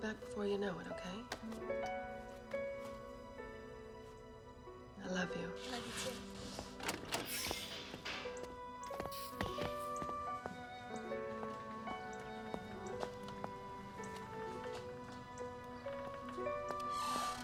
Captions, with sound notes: I'll be back before you know it, okay? I love you. - I love you too. (door clicks) (footsteps tapping)